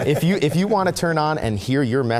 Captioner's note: laughing